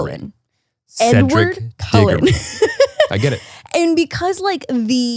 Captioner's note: laughs